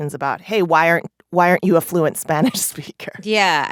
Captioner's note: laughter